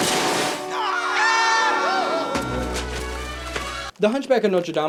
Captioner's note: guards yell